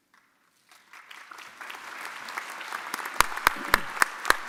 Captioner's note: audience applauding